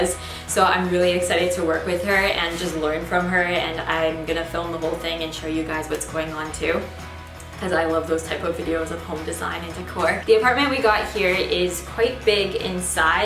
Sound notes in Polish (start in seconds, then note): none